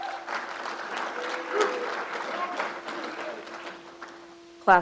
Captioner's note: crowd applauds